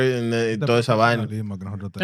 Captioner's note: speaking In Foreign Language